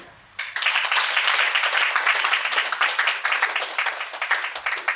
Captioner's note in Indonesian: Tepuk tangan